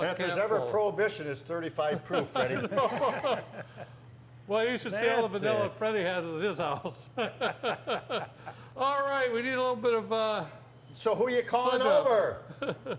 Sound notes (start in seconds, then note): 1.9 men laughing; 7.2 laughs